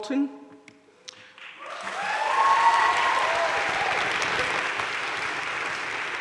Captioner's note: audience cheering and applauding